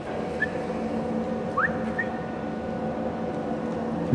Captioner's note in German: pfeift